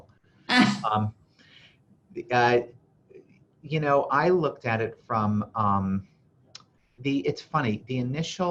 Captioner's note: laughs